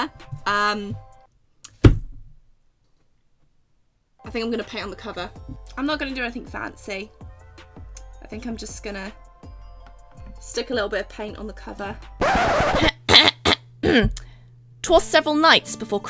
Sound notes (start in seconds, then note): 12.2 record scratch; 13.8 clears throat